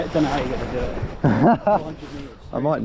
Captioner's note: laughs